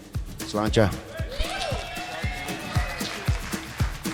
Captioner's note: cheering